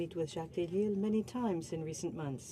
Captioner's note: speaking French